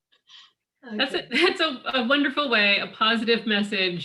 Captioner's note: laughs